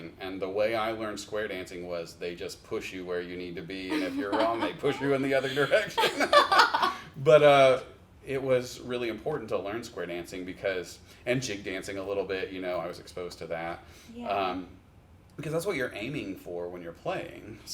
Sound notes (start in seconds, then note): 6.2 laugh